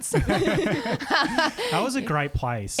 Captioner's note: laughing together